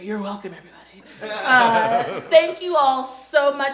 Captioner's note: laughing